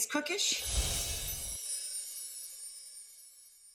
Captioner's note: bells chime